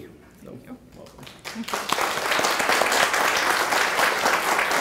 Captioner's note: clapping